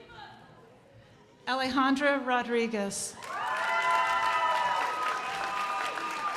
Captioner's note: crowd applauding